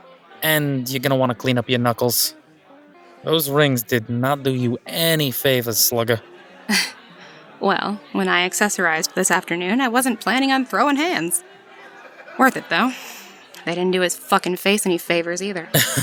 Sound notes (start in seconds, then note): 7.0 amused exhale; 15.7 laughs